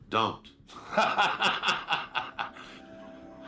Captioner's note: laughs